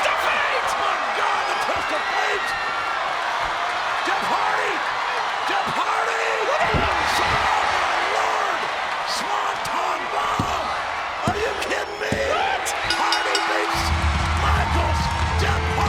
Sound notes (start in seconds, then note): 0.0 audience cheering; 7.9 audience cheering; 12.8 bell rings